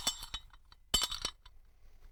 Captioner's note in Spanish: clunk; clank